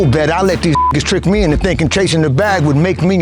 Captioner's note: beep